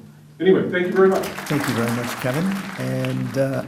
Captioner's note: applause